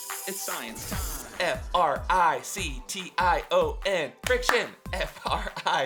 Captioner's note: claps